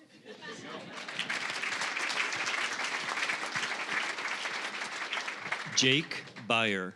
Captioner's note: audience laughing; applause